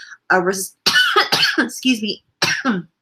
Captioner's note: coughs, excuse me